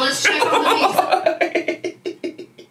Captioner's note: laughs